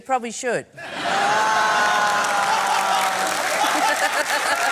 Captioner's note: laughter and applause